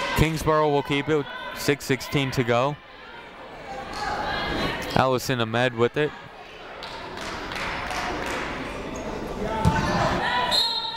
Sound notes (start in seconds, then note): 4.2 people shouting in the crowd; 7.1 people shouting in the crowd; 10.5 whistle tweeting